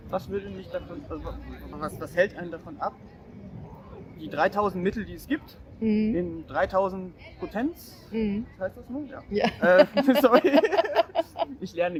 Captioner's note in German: lacht